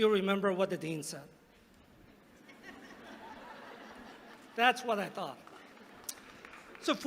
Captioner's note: laughter